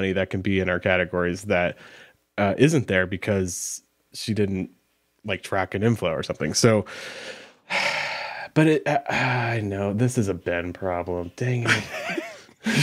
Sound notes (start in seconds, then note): 6.9 sighing; 11.6 laughing